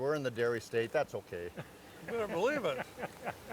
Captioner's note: chuckling